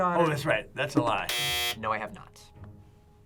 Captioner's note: buzzer